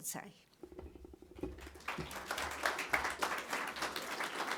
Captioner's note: audience clapping